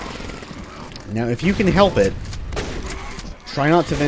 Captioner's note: shotgun blasting away